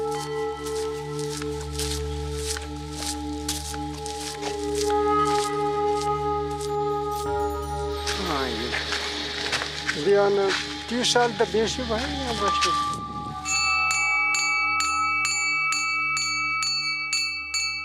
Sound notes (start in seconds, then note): 8.3 dzongkha spoken audio